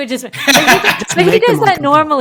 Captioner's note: laughing